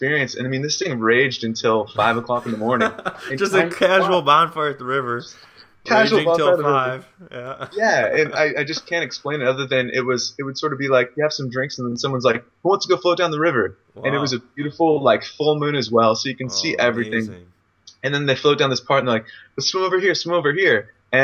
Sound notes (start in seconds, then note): 1.9 laughs